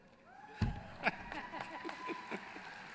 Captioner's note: applause